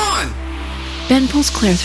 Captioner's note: whooshing